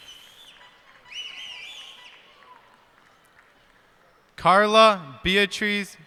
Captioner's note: cheers and applause